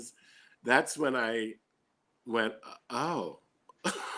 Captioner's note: laughing